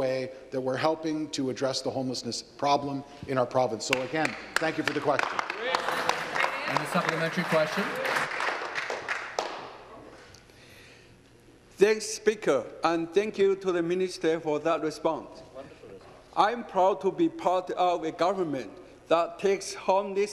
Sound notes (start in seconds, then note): 9.9 applause